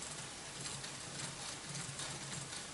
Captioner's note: quiet cranking sound